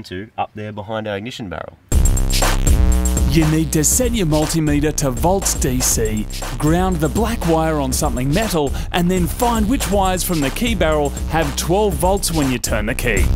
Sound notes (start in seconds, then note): none